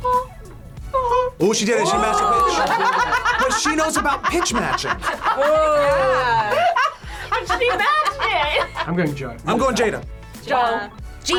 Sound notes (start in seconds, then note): 2.3 laughs